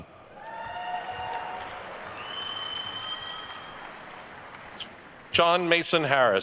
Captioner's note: attendees cheering and applauding